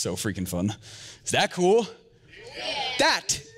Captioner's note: audience cheers